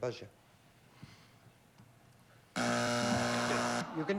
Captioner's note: buzzer